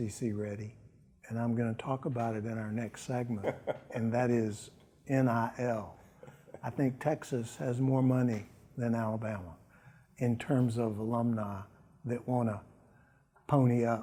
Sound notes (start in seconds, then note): 6.0 laughs